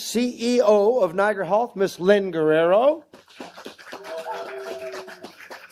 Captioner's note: applause